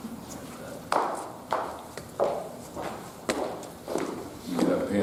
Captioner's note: heels clicking